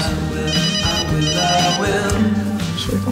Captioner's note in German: Handy klingelt